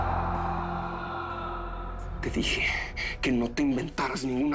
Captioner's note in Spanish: Gritos